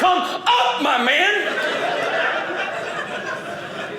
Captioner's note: audience laughing